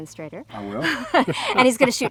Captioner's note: both laughing